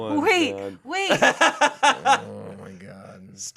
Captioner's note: laughing